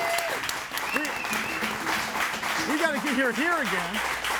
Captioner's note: audience applauding